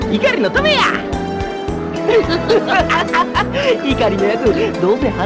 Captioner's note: Toji and Kensuke laughs